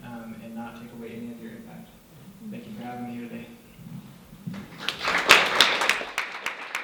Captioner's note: clapping